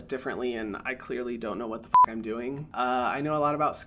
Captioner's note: beep